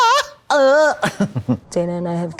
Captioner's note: blonde Women squeal